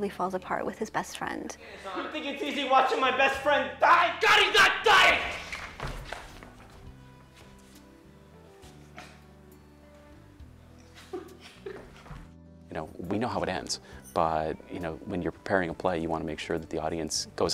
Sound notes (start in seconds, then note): 9.8 yelling